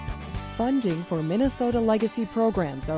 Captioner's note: voiceover